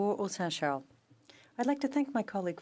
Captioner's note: speaking French